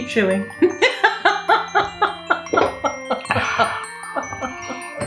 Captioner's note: cacklin